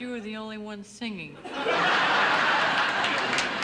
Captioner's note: audience laughing; audience applauding